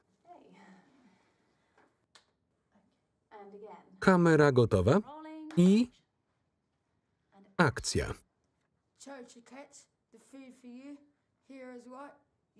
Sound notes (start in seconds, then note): 5.5 claps hands